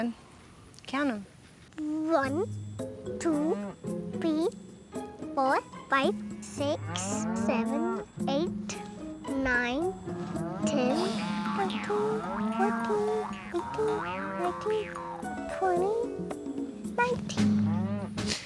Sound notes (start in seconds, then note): 11.0 counting